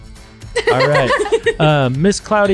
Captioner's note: laughing